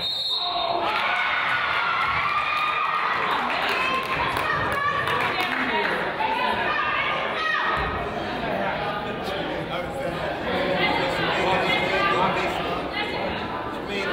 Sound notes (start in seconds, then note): 0.0 whistle blows; 0.8 crowd applauds and cheers; 9.0 crowd chatters